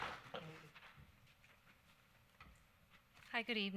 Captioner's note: clapping